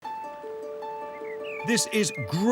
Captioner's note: gentle upbeat music; birds chirping